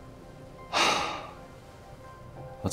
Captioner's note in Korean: 준호 한숨